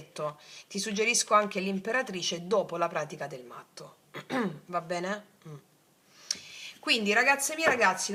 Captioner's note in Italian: schiarire la voce